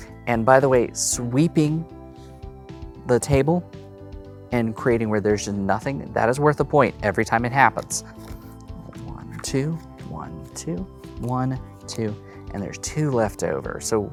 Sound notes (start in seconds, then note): 7.8 cards slapping